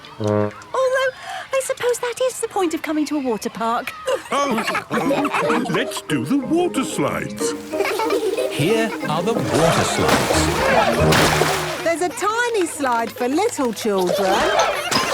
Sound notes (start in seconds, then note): 4.0 all laughing; 10.2 laughing